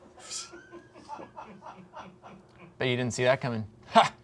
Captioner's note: crew laughing